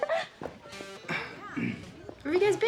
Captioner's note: Lisa laughing, Nash clears throat